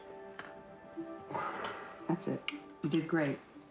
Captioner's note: breath